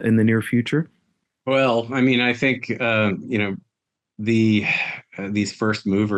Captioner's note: sighs